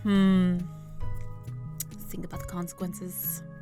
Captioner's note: whispering